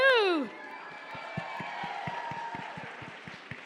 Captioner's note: cheering and applause